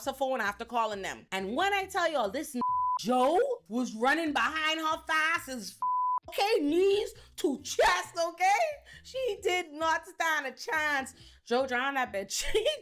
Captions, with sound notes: her phone after calling them. And when I tell y'all this (beep) Joe was running behind her thighs as (beep) Okay, knees to chest, okay? She did not stand a chance. Joe drawing that bitch.